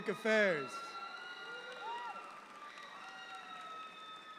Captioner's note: audience applauds